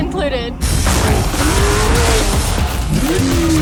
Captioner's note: engine roars